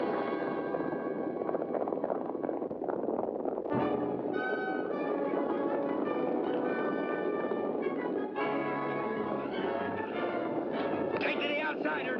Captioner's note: dramatic music; hooves pounding